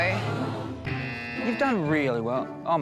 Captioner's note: buzzer